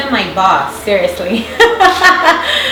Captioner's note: laughing